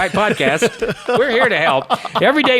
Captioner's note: laughing